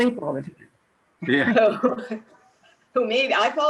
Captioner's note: laughing loudly